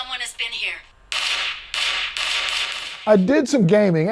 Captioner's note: gun fires